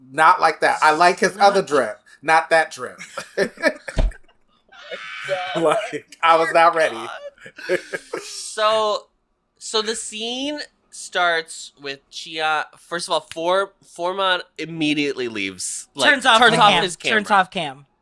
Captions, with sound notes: Not like that. I like his other drip, not that drip. [Laughs] Like, I was not ready. So, so the scene starts with Chian. First of all, Fou - FouMod immediately leaves like Turns off his cam Turns off cam.